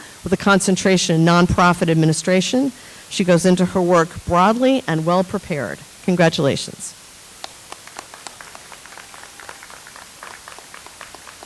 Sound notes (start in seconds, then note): 7.4 audience applauds